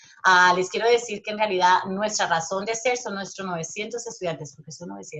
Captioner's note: speaking Spanish